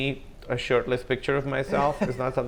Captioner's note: comedians laugh